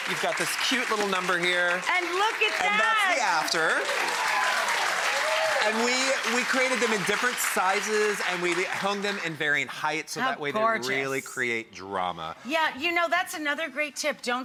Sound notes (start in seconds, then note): 4.1 audience applauding and cheering